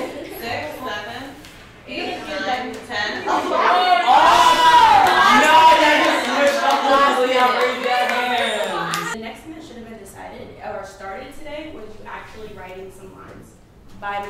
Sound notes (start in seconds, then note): 3.2 class cheers